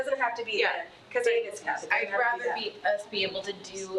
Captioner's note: attendees chattering